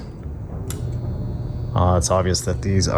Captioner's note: switch clicks